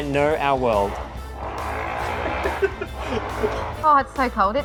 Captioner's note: motorcycle noise